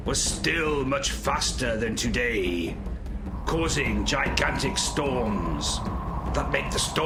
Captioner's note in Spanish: sonido de silbido